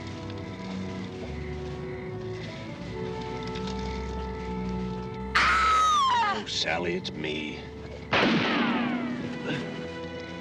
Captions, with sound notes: [screams] Oh, Sally, it's me. [gun firing]